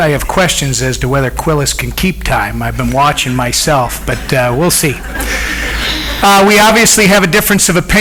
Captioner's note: audience laughs